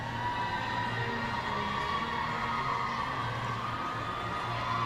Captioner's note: audience cheering